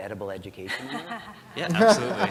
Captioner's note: laugh